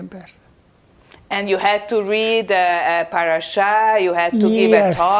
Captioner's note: hebrew